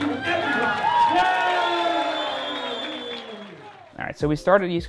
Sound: applause

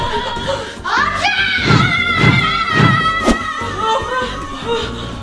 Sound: air whooshing

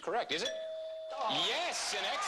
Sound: ding

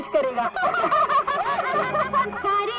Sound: laughs

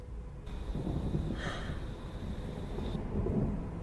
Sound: sigh

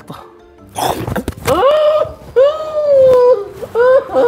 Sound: gasps

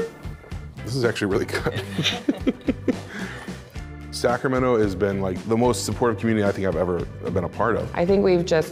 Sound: laughs

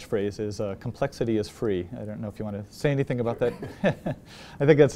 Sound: laugh

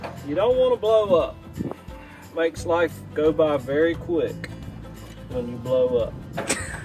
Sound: laughter

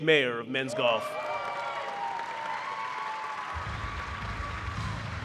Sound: applause

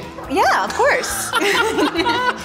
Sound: laughter

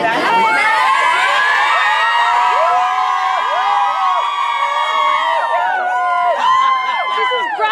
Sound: cheers

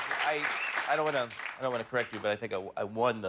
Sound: cheers and applause

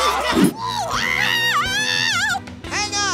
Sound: screaming

